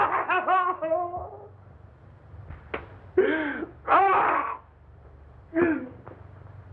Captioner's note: Crying and Moning from the Doctor